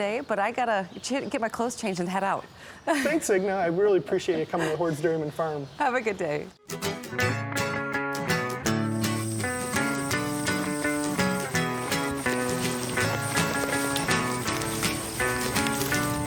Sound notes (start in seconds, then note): 6.8 folksy music; 12.1 crunching and shuffling